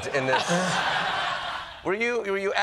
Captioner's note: laughter